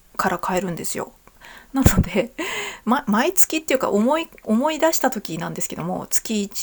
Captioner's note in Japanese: 笑い